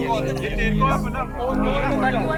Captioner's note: indistinct chatter